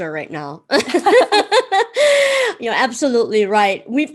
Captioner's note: laughs